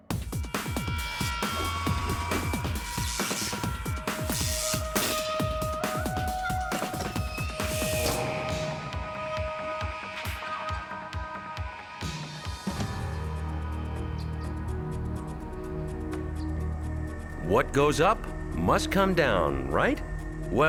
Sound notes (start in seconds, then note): 0.2 upbeat techno music; 1.6 object whooshing; 3.0 electricity buzzing; 5.0 metal clangs; 7.8 electricity buzzing; 8.7 inquisitive music